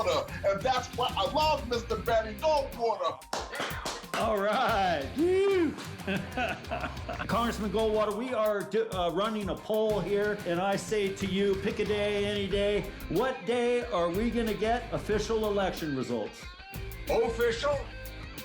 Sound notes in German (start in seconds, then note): 3.3 beifall